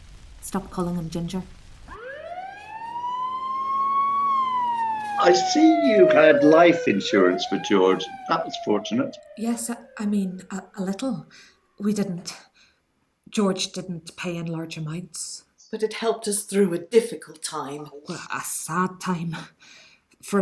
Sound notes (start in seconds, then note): 2.2 sound of sirens